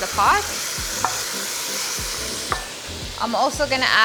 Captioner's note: pot sizzles